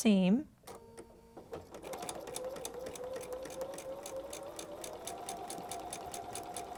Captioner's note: sewing machine whirring